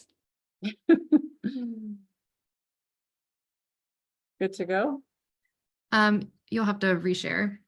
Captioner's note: laughs